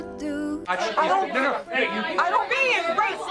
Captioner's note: everyone arguing